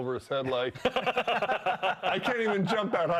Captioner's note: laughing